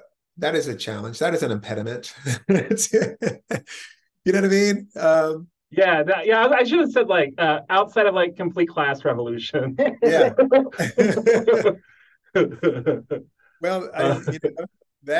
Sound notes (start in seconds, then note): 9.8 laugh